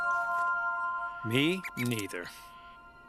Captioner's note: bug squeaks